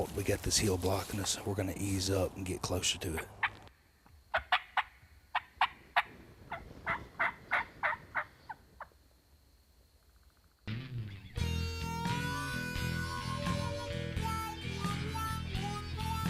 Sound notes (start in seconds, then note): 4.3 turkey calls; 10.6 playful blues music